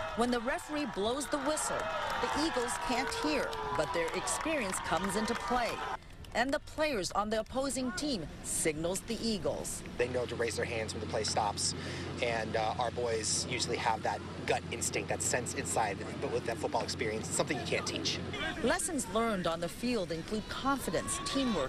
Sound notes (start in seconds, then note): 4.7 cheering